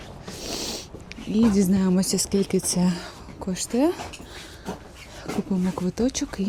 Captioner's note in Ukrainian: сопіння